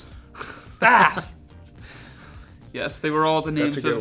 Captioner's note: snickering